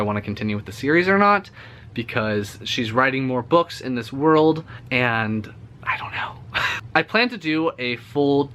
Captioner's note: whispered